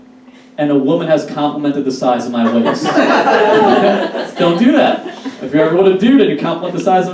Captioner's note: audience Laughs